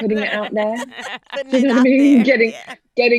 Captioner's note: laughing